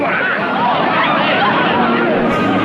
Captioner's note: loud clamoring